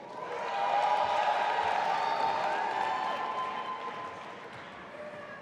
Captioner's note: audience applauding and cheering